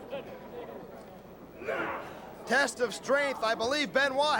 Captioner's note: crowd chatter